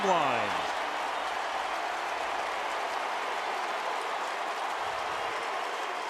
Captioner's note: cheering